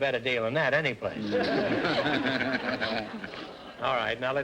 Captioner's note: audience laughter